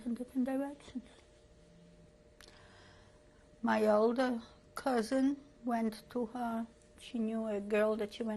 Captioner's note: pauses for 3 seconds